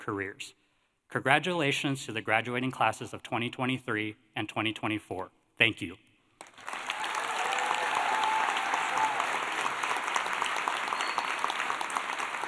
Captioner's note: applause